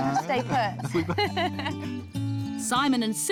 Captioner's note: laughs